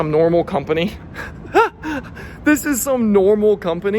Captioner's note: laughs